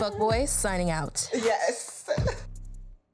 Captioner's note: laughs